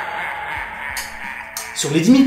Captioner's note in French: rire démoniaque; tic tac